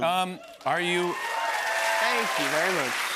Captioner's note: cheers and applause